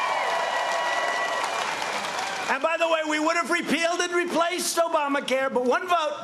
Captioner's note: cheers and applause